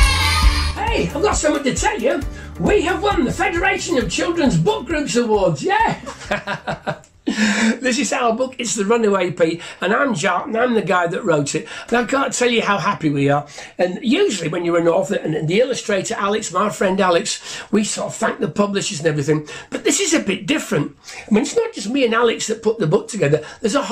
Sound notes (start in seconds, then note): 0.0 music fades out; 5.9 laughs